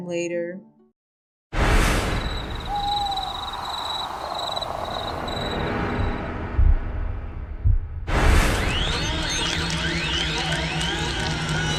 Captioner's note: crickets and menacing sounds